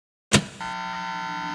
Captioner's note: switches clicking; meter buzzing